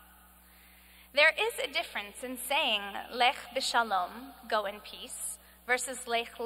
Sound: speaking hebrew

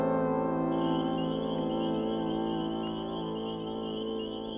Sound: crickets chirping

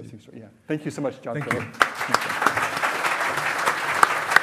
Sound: loud clapping

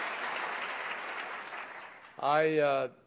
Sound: applause

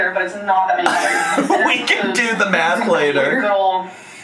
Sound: laughs

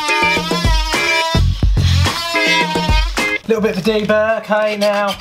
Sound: saw buzzes

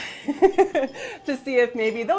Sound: laughing

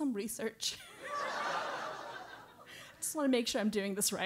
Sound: laugh

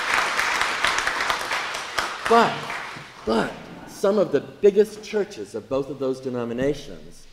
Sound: applause

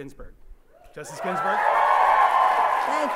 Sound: audience applauds

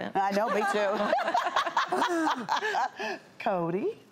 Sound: laughs

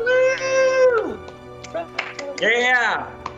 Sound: lighthearted music; cheering

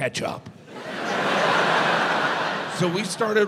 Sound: audience laughs

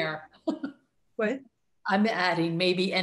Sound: laughs

